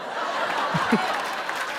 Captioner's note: laughter